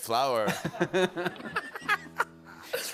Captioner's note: laughter